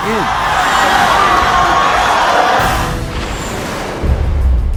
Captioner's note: audience cheering